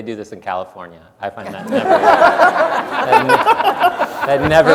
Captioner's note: audience laughs